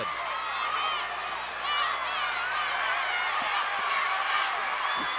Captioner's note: audience cheering